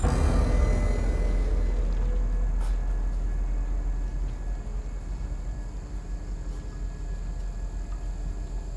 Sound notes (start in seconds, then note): 0.0 dramatic music; 4.0 crickets chirping